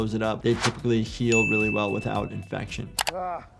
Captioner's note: swooshing music; bell chiming